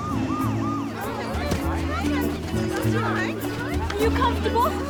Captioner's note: chatters